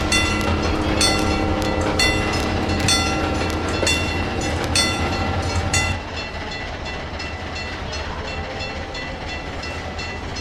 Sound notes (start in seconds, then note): 6.0 ringing stops; 9.8 railroad crossing ringing in the distance